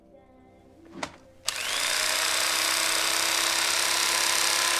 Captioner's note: knife whirring on